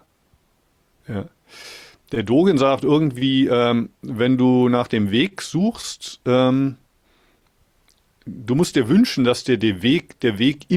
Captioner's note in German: schnauben